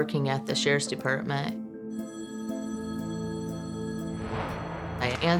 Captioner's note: phone rings